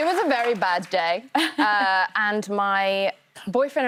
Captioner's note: cheers and applause